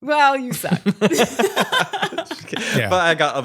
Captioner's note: laughs